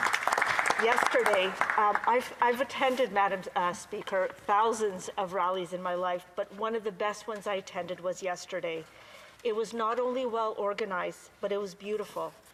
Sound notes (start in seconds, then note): 1.5 applause